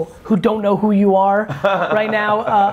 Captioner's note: laughs